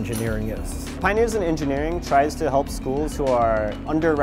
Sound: voiceover

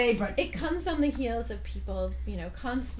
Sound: voiceover

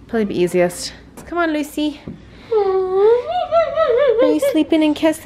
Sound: coos

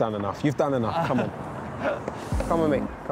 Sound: laughing

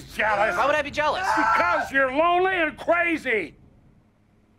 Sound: TROY stops screaming

